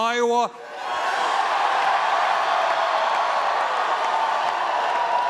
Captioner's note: cheering and applause